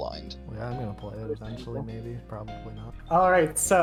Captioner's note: mumbling